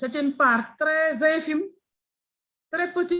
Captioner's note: speaking in foreign language